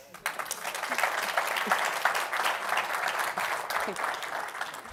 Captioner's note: applause